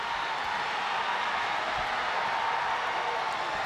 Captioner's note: crowd cheering